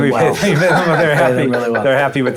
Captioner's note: all laughing